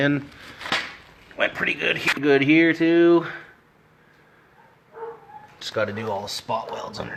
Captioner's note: dog barking like a doofus in the background